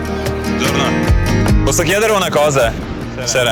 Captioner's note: speaking Italian